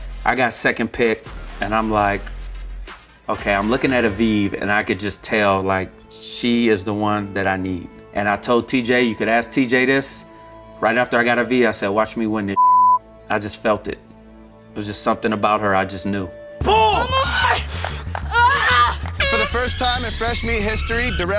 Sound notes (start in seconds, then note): 12.5 beep; 18.3 grunts; 19.2 horn honks